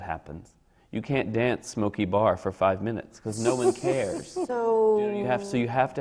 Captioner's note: laughs